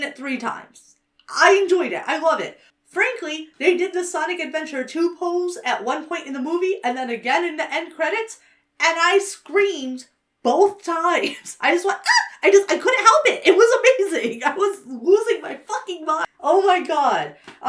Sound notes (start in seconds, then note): 12.0 laughs; 12.0 squeals